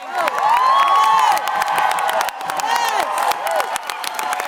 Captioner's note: applause